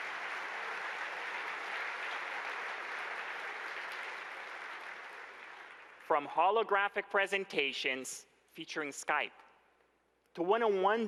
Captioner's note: applause